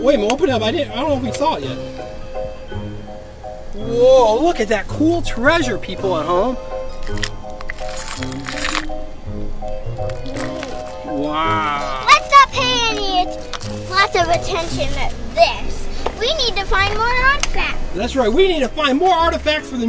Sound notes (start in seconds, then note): 6.8 treasure clinking